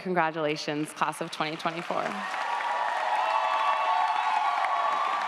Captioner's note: audience applauds & cheers